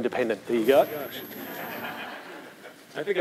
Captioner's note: laughter